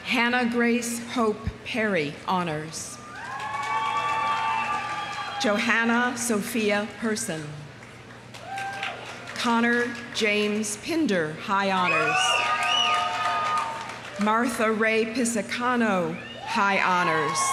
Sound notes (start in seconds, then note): 3.0 audience cheering; 3.0 audience applauding; 8.3 audience applauding; 8.4 audience cheering; 11.8 audience cheering; 12.3 audience applauding; 16.9 audience cheering; 17.3 audience applauding